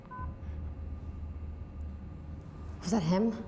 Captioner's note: beeps